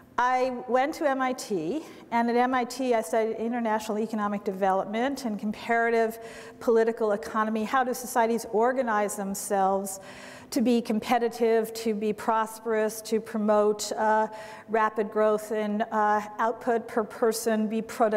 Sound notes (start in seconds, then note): none